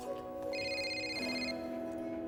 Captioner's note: phone rings